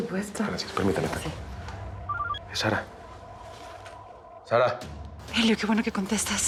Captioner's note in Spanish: suena el celular